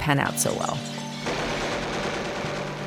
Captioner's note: gun shots